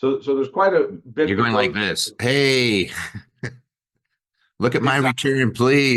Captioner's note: chuckling